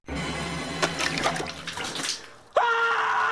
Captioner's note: water sloshes; exclaims